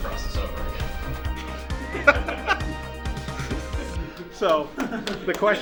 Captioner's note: laughter